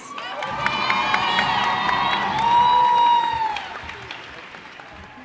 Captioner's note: cheers and applause